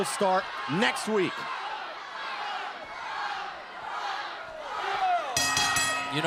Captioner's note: crowd cheering; bell ringing